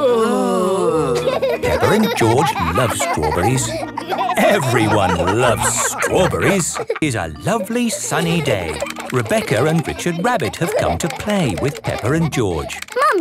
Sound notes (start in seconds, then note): 0.0 groaning; 1.5 laughing